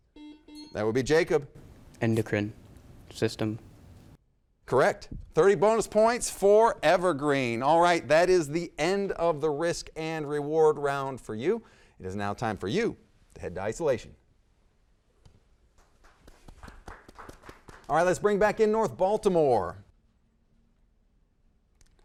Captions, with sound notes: (buzzer dings) That would be Jacob. - Endocrine system. - Correct. 30 bonus points for Evergreen. All right, that is the end of the risk and reward round for you. It is now time for you to head to isolation. (audience applauds) All right, let's bring back in North Baltimore.